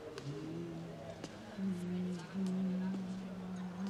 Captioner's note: humming